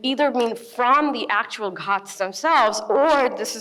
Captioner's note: speaks in foreign language